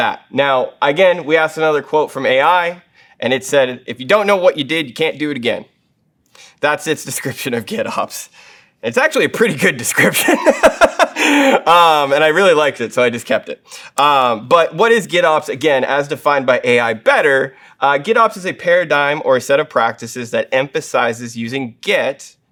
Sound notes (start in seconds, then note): 10.2 laugh